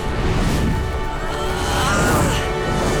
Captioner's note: groaning